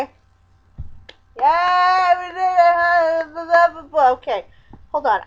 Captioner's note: clapping